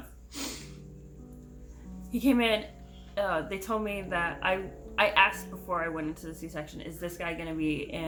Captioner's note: sniffles